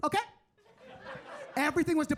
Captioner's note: audience laughing